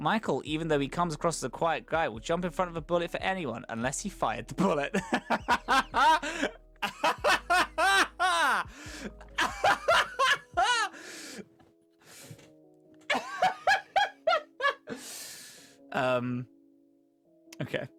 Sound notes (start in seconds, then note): 4.8 begins Laughing again, x3, deep breath, Laughs again